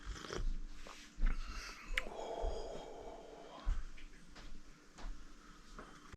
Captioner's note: exhaling